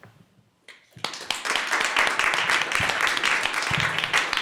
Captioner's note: applause